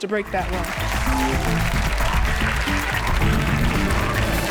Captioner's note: audience applauds